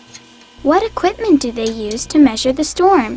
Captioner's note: voiceover